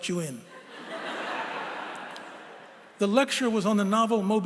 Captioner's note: laughter